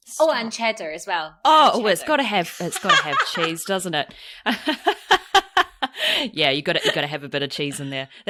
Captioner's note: laughs